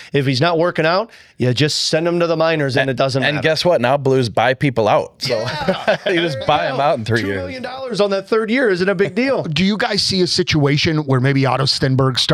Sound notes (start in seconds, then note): 5.2 laughter